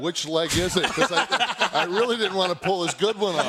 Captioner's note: laugh